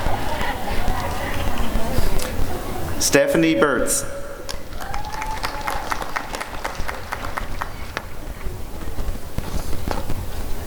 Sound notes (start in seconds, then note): 0.0 laughter; 4.4 applause and cheering